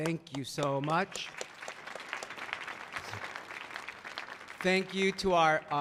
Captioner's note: everyone clapping